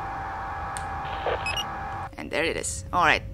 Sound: sound cue for retaining video signal

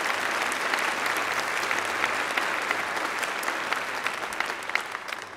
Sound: applause

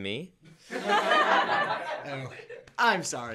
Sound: laughter

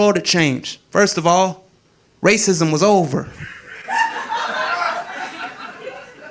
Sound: audience laughing

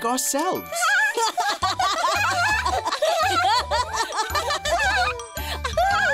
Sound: everyone laughs

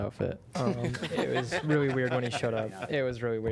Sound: laughter

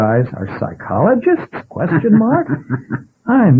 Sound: laughs

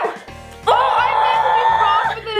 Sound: screams

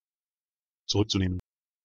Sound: fast Pronunciation

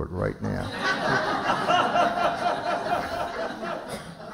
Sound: laughter

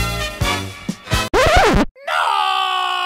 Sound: record scratches

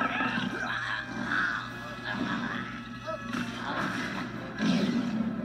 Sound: gurgling

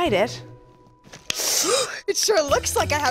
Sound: gasps

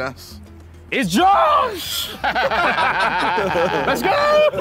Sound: laughing

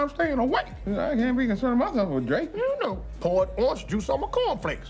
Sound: none

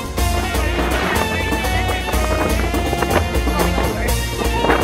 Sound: wind blowing

